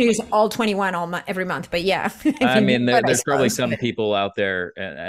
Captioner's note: chuckles